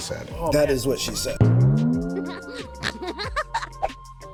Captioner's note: boing